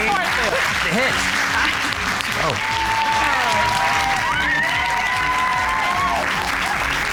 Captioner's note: cheers and applause